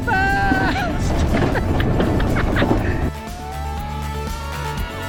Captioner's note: he laughs and screams